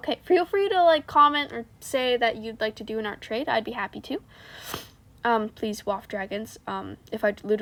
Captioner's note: snifff